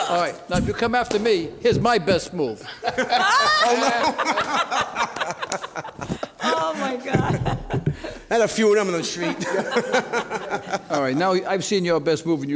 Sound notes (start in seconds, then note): 2.6 all laugh